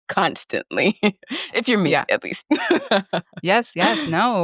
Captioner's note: laughs